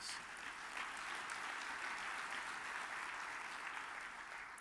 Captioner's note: audience applauds